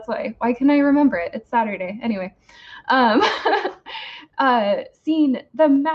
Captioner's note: laughs